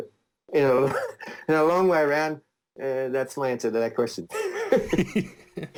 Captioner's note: laughs